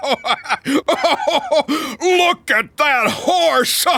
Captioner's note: laughing